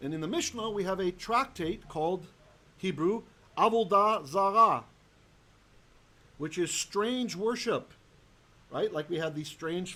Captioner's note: Hebrew